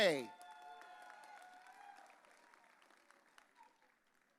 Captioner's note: audience cheering